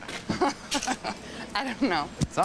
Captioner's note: Becky laughs